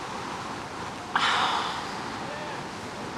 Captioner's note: sighing